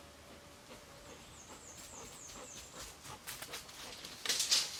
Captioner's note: Cali panting